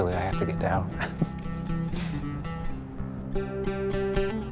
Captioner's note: laughs